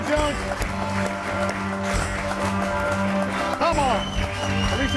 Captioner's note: audience applauding; upbeat music continues